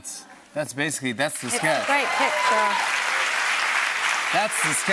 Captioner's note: cheers and applause